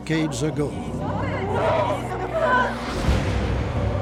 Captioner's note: distorted voices